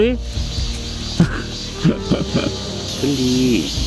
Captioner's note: chuckles